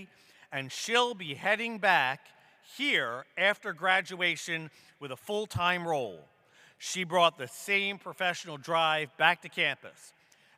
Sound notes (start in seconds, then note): none